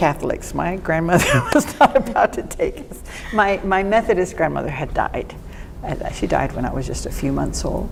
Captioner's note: laughs